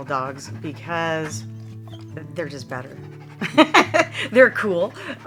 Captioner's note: laughs